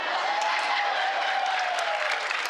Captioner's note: laughter